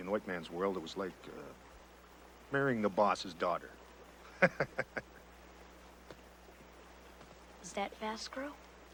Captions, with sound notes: In white man's world, it was like marrying the boss's daughter. (chuckles) - Is that Fast Crow?